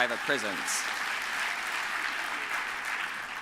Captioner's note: applause